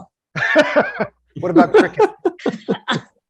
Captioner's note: laughs